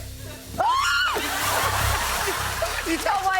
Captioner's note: laughter